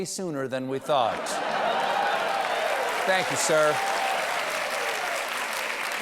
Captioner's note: laughter